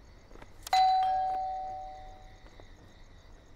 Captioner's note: Doorbell rings